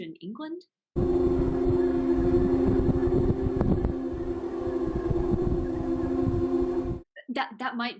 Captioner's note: sound like a ghost cat dying